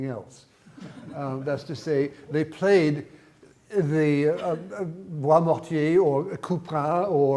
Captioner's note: speaks in foreign language